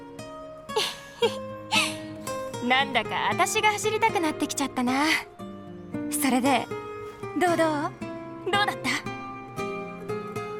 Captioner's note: laughs